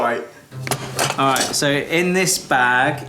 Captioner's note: bag of objects clanking